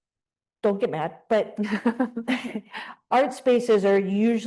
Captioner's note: chuckles